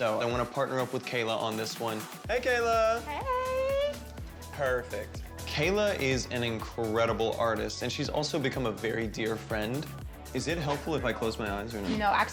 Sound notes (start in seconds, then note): none